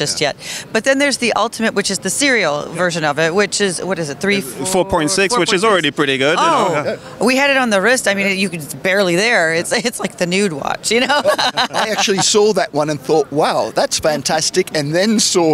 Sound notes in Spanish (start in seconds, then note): 11.0 Risas